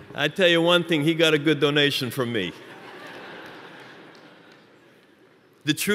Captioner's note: laughter